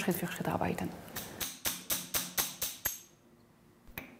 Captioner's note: hammering